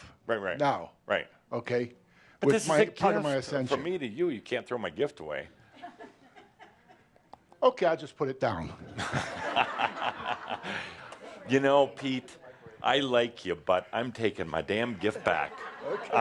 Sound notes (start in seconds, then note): 8.9 laughter